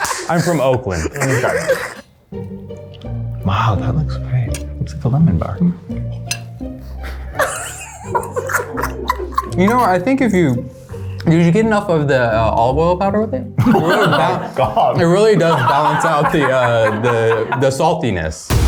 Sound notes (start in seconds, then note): 1.7 light music; 6.8 laughs